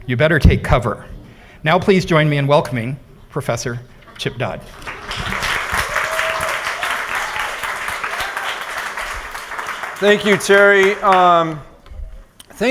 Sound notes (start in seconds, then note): 4.7 applause